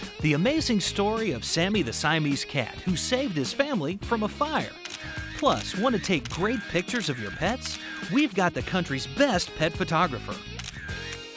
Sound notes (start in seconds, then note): 4.8 camera clicks